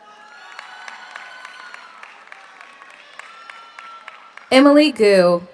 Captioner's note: audience applauds; audience cheers